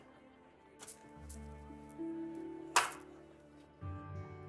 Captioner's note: coins jingle